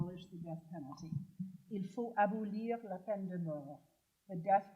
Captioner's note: speaking french